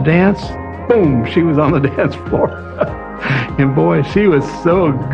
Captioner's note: chuckles